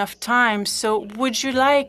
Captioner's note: speaking French